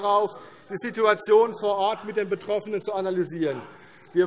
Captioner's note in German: none